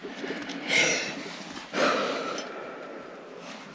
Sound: breathes deep

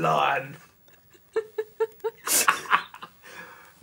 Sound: laughing

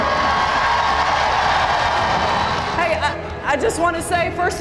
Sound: cheers and applause

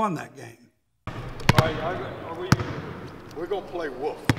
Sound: ball bouncing

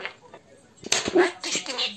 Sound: a sound of falling pen

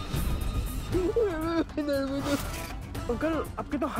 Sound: sobbing

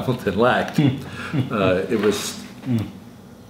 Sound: interview laughs

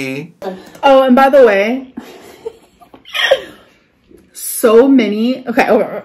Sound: laughing

